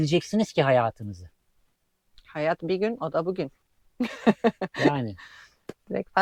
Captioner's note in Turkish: kahkaha